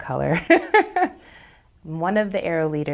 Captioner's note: laughs